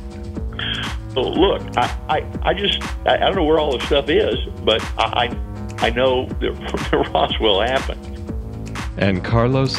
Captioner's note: laughs